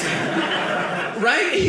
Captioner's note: audience laughing